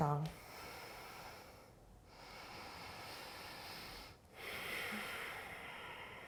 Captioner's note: deep breathing